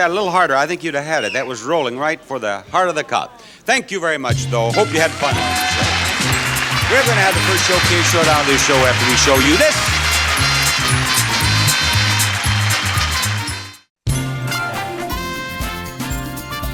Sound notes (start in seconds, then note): 5.6 audience applauds; 5.6 upbeat music; 9.5 audience applauds; 9.5 upbeat music